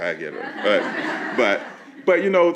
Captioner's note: laughing